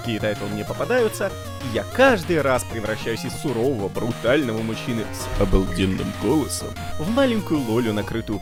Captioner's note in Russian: обалденным голосом